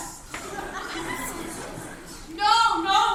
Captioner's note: crowd whispering